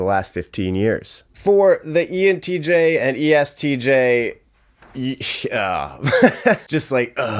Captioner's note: laughing